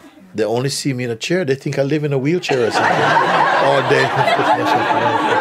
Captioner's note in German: Lachen